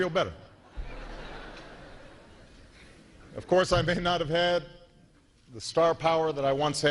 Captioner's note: laughter